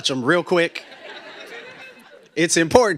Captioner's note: laughter